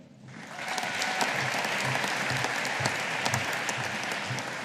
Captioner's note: audience applauding